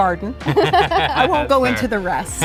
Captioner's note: couple laughs